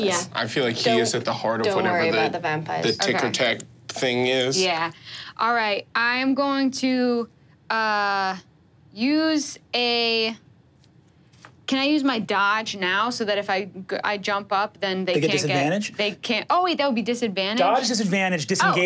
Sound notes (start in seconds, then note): none